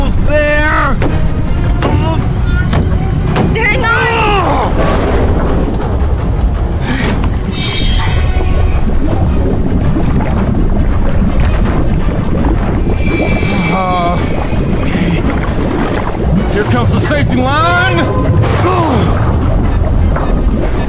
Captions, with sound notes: Almost there. Almost there. - Hang on. (water bubbling) (suspenseful music) Okay, here comes the safety line.